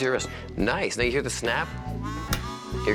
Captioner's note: clicks